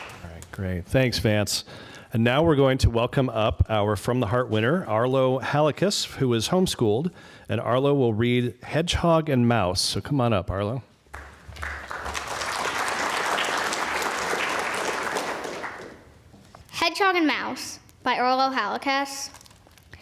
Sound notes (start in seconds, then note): 14.3 applause